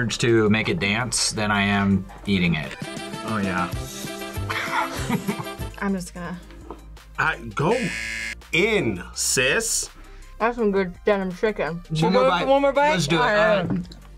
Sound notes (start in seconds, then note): 4.4 laughs